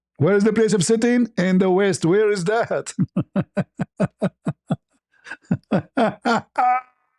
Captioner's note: ketawa